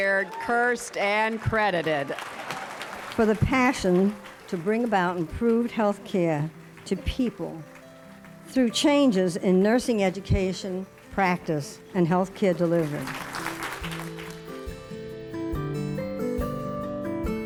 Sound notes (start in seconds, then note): 1.8 applause; 12.6 applause